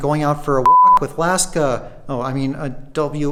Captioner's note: beep